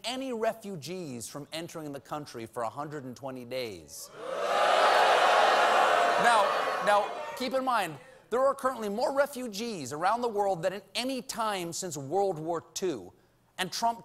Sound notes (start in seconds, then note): 4.1 audience reacts